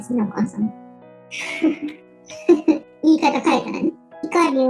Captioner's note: laugh